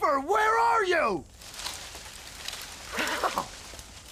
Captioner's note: leafs Rustling